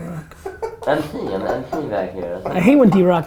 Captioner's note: group laughter